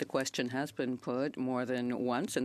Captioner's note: speaking French